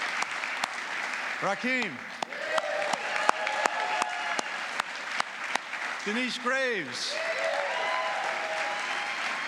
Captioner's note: applause